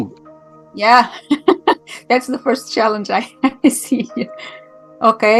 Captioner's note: laughing